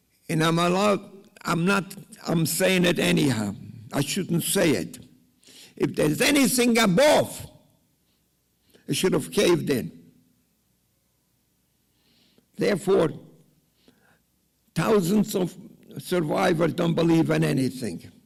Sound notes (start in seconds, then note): none